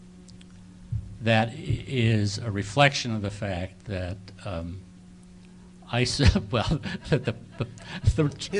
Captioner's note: laughing to self